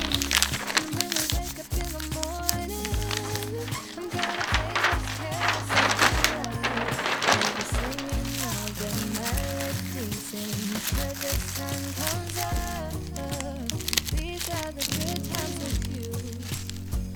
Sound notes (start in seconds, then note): 9.7 SFX: Crinkling; 13.5 SFX: Attaching sticker